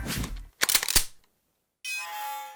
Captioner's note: click!; creak